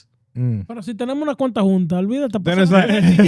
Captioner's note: speaking In Foreign Language